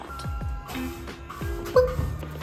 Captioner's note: squeak